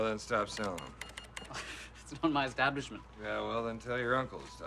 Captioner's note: sighs